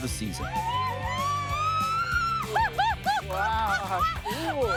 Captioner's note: screaming in excitement